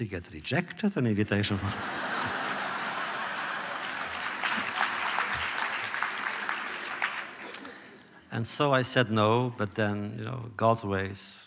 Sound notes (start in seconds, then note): 1.5 laughter; 2.6 applause